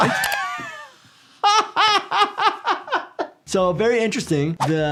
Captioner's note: laughing